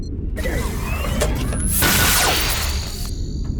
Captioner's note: zap